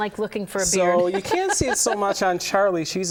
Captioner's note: laughter